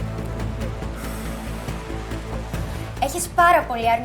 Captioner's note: ξεφύσημα